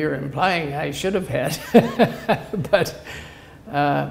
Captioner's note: laughter